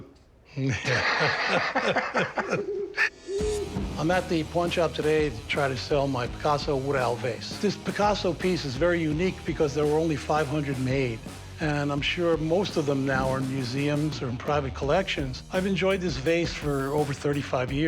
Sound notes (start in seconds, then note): 0.6 both laughing; 2.4 owl hoots